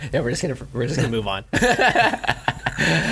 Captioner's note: laughs